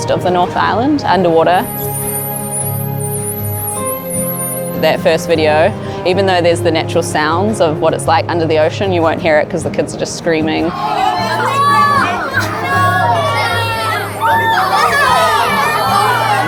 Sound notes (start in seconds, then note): 1.6 dolphin sounds; 14.0 children excitedly shouting